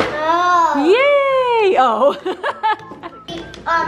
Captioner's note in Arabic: ضحكة مكتومة